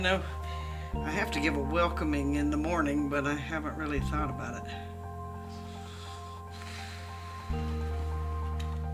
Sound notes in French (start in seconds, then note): 5.5 soupir